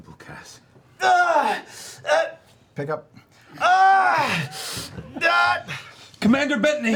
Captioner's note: yells in pain